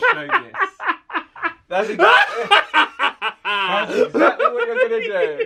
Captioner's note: laughing wickedly